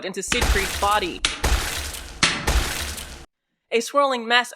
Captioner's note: isolated, amplified distinct, steady gunfire for the cracks